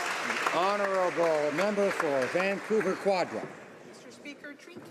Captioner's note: some Applause